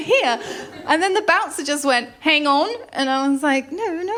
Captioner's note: australian accent